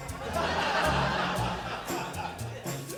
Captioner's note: laughter